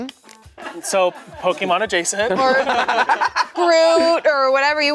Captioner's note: laughing